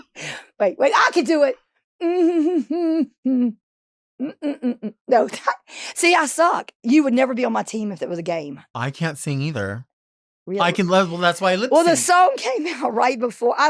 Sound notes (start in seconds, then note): 1.7 Marguerite humming